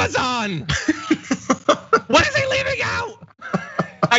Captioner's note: laugh